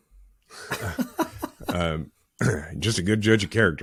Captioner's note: laughing